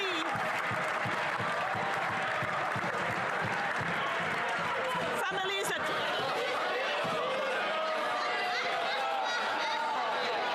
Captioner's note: some Applause